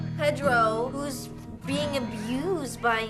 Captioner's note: none